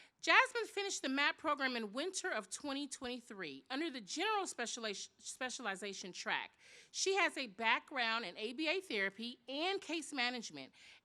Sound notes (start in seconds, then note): none